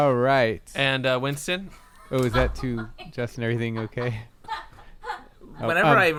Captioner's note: muffled laughter